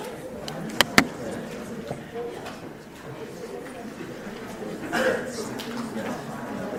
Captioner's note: audience quietly interacting